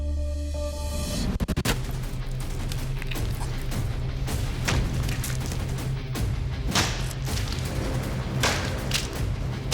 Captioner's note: impact sounds